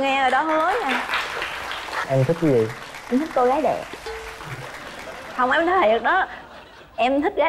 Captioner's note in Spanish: Aplaudir